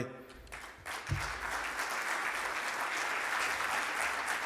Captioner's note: audience clapping